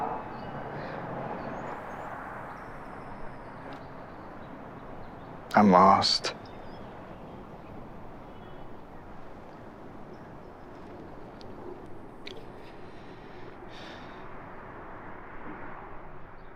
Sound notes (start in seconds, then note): 11.8 Hardy sighs